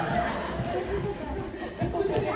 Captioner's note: laughter